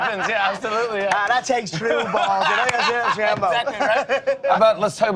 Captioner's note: laughter